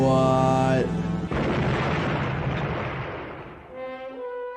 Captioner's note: car booms